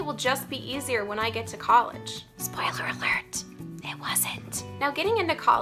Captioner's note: whispers